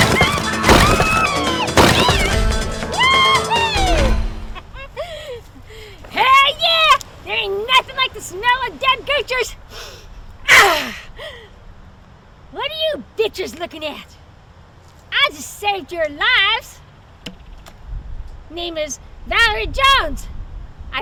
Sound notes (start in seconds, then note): 9.7 Valarie sniffs; 10.6 Valarie sighs